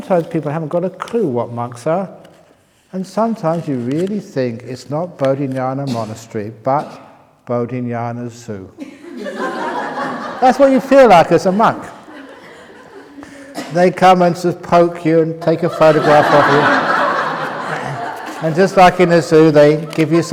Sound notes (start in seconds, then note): 8.8 laughter; 11.4 laughs